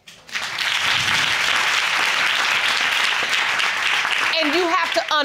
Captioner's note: audience applauding